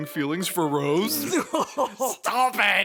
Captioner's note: Phasma laughs